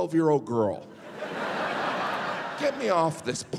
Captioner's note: audience laughing